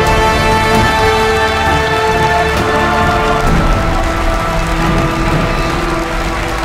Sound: applause

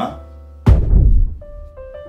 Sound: thump

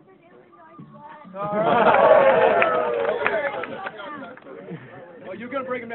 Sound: applause

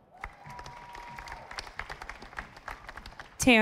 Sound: audience applauding

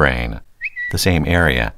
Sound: Twitter sound

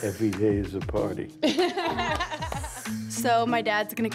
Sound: laughing

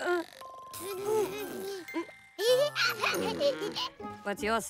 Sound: cooing, giggling

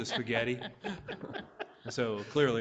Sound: all laughing

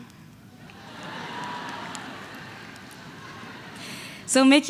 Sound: audience laughing

